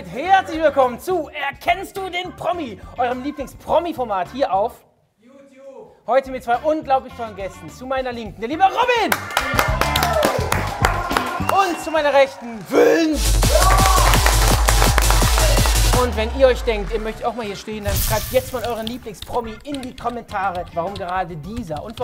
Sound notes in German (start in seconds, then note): 10.8 Jubel; 13.5 Partymusik